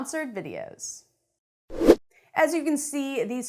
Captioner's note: air whooshing